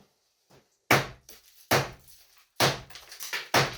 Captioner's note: loud crack